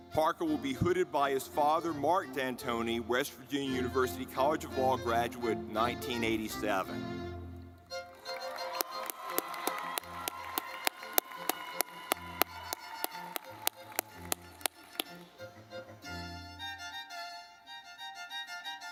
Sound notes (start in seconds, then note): 7.4 lively music; 7.9 audience clapping